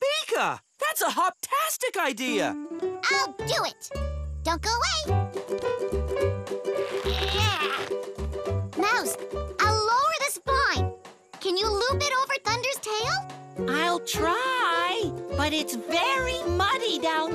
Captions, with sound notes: THUMPEKA! THAT'S A HOPTASTIC IDEA! I'LL DO IT! DON'T GO AWAY. (STRAINING GRUNTS) MOUSE, I'LL LOWER THIS VINE. CAN YOU LOOP IT OVER THUNDER'S TAIL? I'LL TRY,